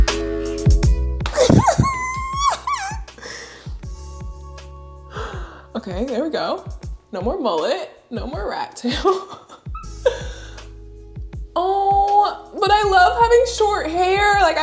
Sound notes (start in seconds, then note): 1.3 laughs; 9.2 laughs